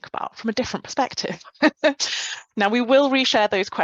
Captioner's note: chuckles